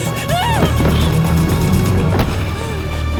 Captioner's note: screams